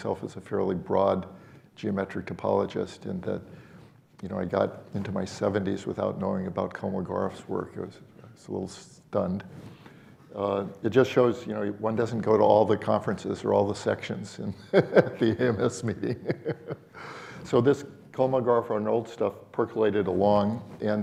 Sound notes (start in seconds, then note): 14.7 laughs